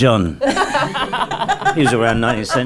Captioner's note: laughing